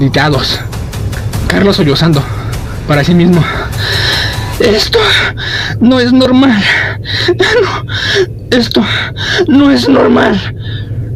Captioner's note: sobbing to himself